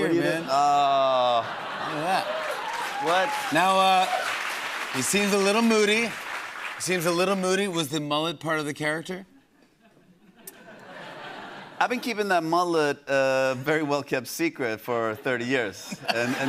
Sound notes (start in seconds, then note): 0.6 laughter; 1.6 cheers and applause; 9.5 laughter